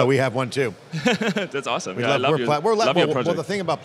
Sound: laughs

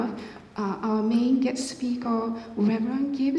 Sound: none

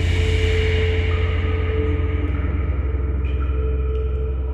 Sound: dissonant whoosh; echoed water dripping

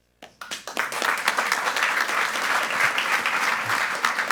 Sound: group applauding

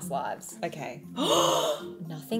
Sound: gasping

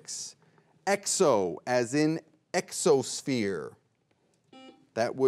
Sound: buzzer beeps once

